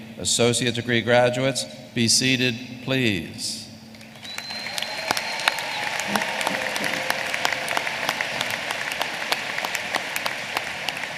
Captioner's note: applause